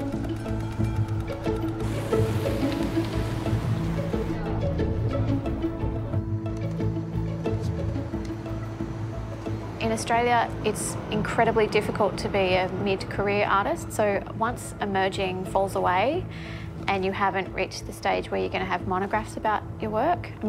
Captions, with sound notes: (Traffic murmuring) (People chattering) - In Australia, it's incredibly difficult to be a mid-career artist. So once emerging falls away, and you haven't reached the stage where you're gonna have monographs about your work,